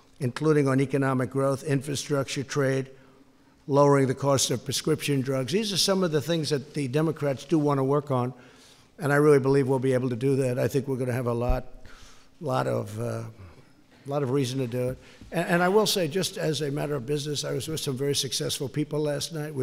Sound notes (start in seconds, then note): none